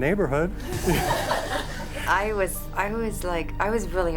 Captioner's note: group laughing